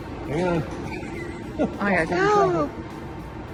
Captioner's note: laughs